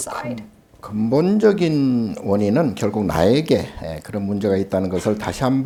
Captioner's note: speaking Korean